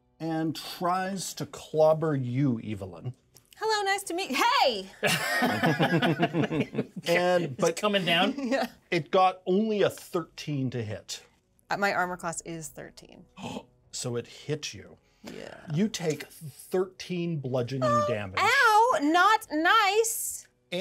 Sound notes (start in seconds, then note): 5.1 laughs